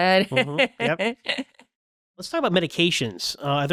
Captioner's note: laughing